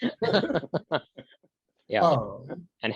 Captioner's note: laughter